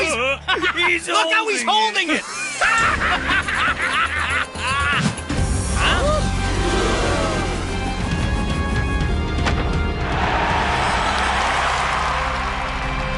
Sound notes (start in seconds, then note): 2.3 laughter; 10.1 applause